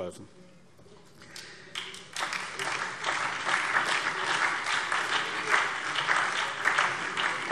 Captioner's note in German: Beifall SPD, DIE LINKE und vereinzelt BÜNDNIS 90/DIE GRÜNEN